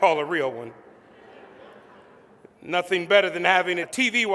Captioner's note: laughter